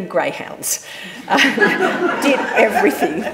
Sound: audience laughing

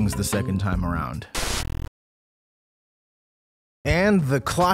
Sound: static sound

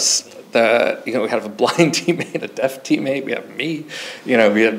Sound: chuckles

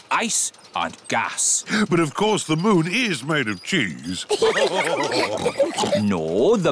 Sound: all laugh

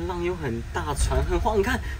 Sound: rumble

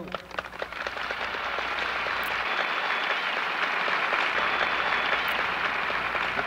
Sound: applause

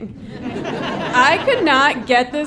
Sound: audience laughing

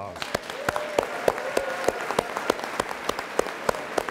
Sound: audience applauds

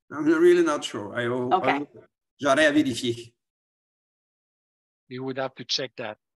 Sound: speaking foreign language

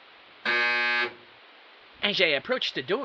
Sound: buzzer

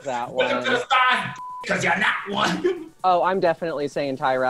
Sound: beep

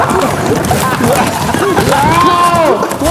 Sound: laughing

